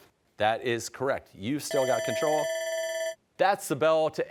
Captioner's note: timer ringing